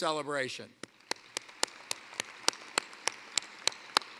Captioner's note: applause